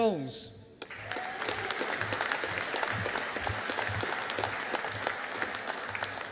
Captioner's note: audience applauding